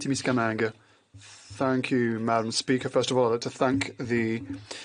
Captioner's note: speaking French